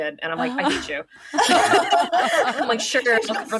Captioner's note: laughing